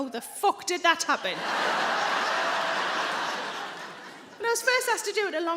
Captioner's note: audience laughing